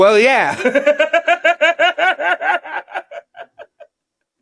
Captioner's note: Ron laughing